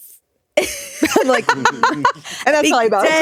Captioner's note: chuckling